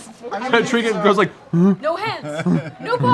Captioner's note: inquisitive grunt